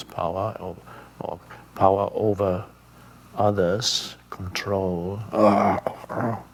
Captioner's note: grunts